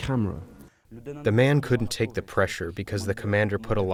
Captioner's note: through translator